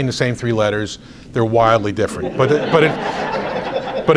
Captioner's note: audience laughs